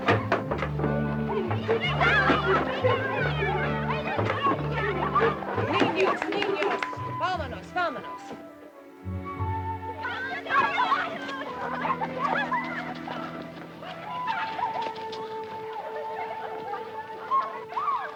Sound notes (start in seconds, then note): 1.6 children yell over each other; 5.8 Gillis speaks Spanish